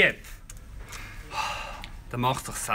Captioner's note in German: seufzt